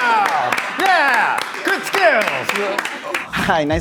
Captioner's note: clapping